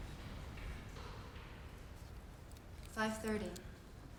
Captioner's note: footsteps clicking